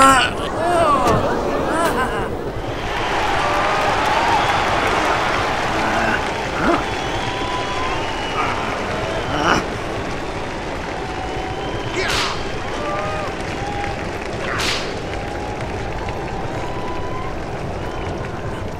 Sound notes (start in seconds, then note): 0.0 grunting; 0.2 hooves thundering; 2.2 crowd murmuring; 3.0 cheering; 8.2 growling; 12.2 reins and whip cracking